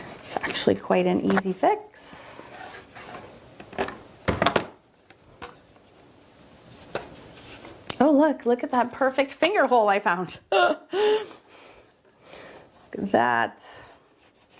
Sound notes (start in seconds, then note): 11.5 laughs